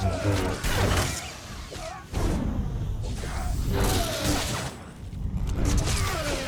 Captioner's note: gunfire